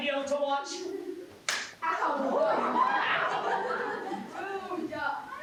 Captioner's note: swat